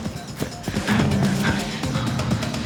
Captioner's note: panting